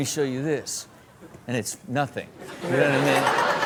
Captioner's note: crowd laughs